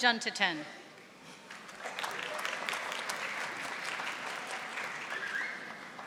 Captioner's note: audience applauding